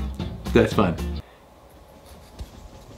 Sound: none

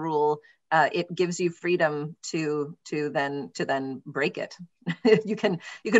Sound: laughs

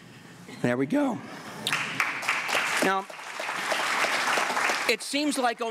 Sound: applause

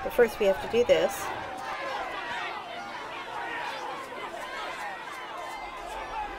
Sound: many voices shouting

